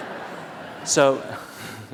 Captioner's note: laughter